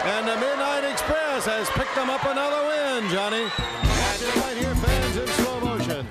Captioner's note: bell ringing